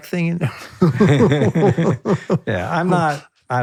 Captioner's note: both laughing